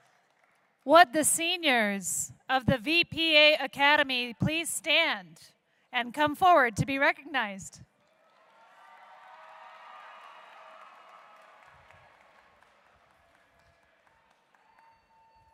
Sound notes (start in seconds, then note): 0.0 applause; 4.9 cheering